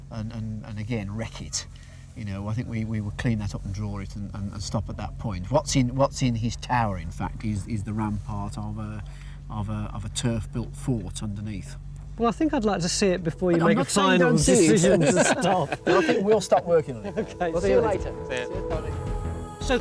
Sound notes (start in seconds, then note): 14.5 both laughing; 15.2 lively music